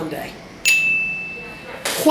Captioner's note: bell dings